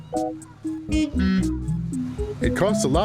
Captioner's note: car honking horn